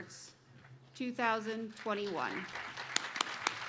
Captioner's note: applause